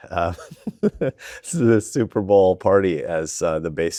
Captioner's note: chuckles